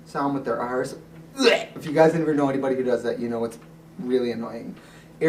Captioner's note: gag sound